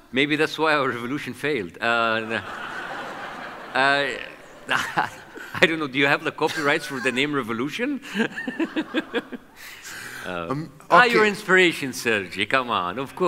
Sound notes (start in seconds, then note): 2.0 audience laughs; 8.0 laughs